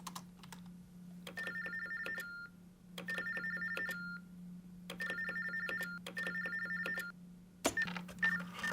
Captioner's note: phone ringing